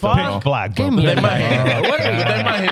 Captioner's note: laughing